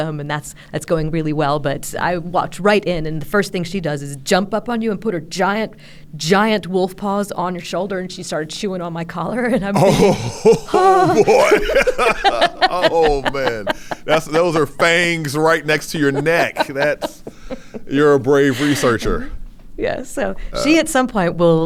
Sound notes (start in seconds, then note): 11.8 laughing